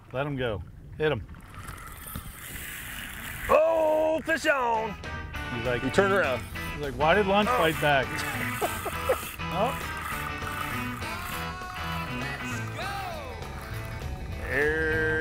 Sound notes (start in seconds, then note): 1.3 reel spinning; 4.7 country guitar music; 8.2 laughs